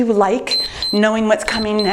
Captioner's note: timer beeps